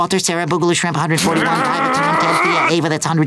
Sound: growling

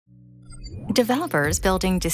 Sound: electronics beeping

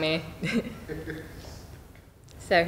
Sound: chuckles

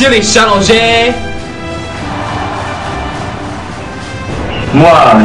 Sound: cheering

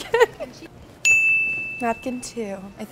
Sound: bell dings

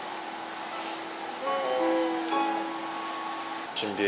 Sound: groans

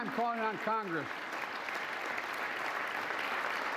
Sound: applause

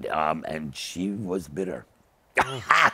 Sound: laughs

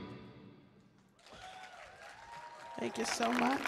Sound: audience cheers

